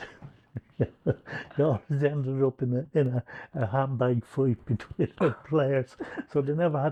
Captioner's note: laughs